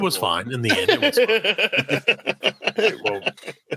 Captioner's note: laughing